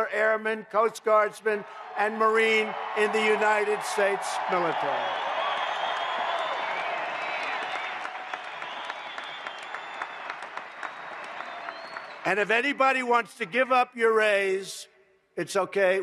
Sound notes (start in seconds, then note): 6.0 applause